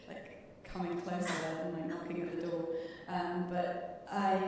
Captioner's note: chuckling